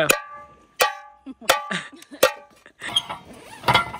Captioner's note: banging